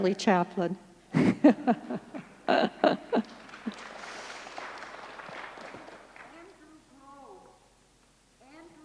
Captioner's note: laughter, applause